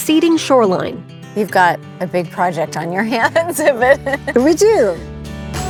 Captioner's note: chuckles